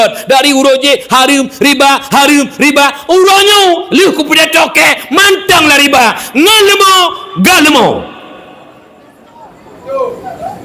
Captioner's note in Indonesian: berteriak